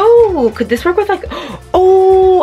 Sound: gasps

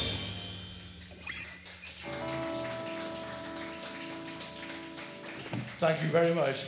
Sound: audience clapping

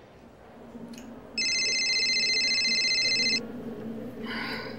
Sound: beeping ring

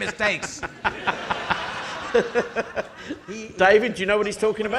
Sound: audience laughing

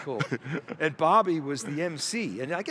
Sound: chuckles

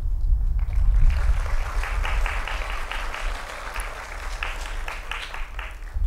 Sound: applause

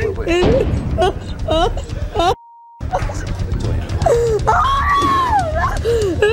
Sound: crying

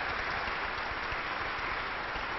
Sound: applause

